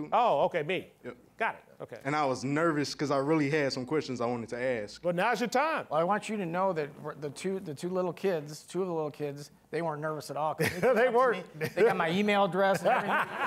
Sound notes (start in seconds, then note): 10.6 laughing; 12.5 all laughing